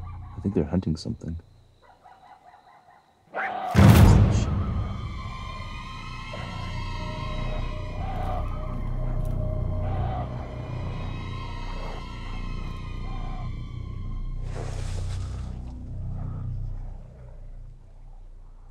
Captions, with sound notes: I think they're hunting something. [roar and bang] [discordant music] [coyotes panicking] [growling fades away]